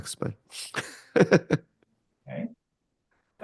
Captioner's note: laughs